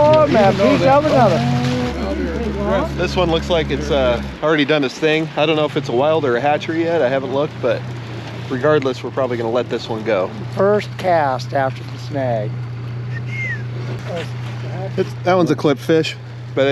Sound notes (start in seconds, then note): 1.4 boat engine running; 13.0 whistling